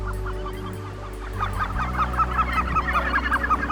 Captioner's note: squawking